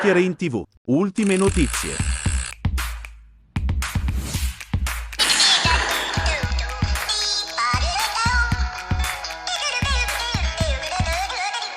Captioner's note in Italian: Applauso